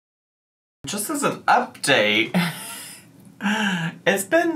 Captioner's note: laughs